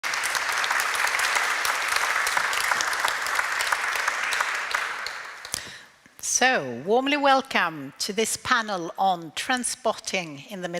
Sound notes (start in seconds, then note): 0.0 audience applauding